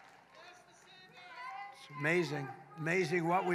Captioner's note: applause